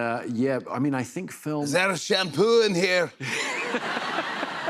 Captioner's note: Scottish accent; laughter